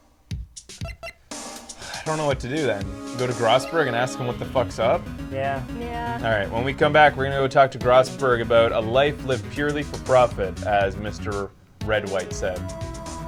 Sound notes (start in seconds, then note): 1.7 sighs